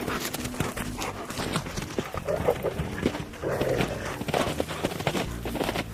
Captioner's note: dogs panting; rustling